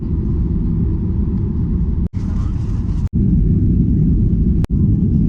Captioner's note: airplane engine rumbles